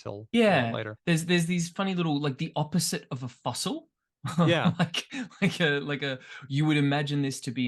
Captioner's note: laughs